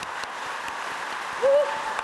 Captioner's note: audience applauding